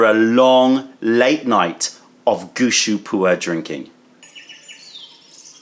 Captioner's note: birds chirping